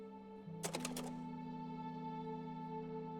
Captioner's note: click